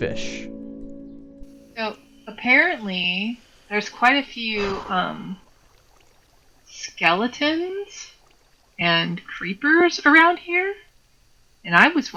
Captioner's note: stompy